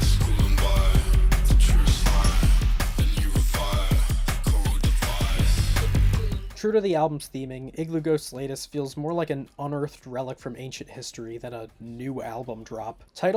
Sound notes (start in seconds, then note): none